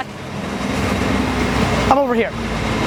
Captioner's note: trucks revving